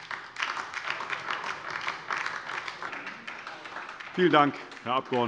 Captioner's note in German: Beifall DIE LINKE